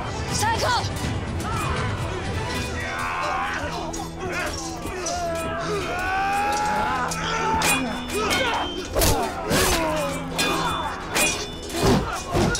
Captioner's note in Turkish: Çarpışma sesleri